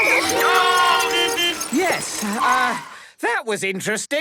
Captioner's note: beeping; whistle blowing